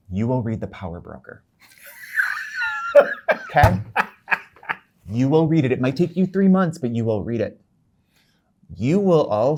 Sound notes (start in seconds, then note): 1.8 guy laughing